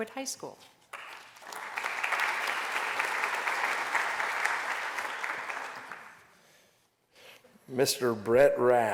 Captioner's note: applause